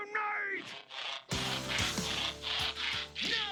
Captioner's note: transforming noise